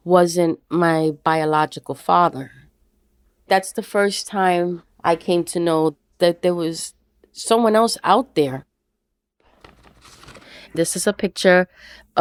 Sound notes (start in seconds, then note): none